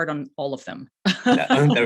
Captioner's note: laughs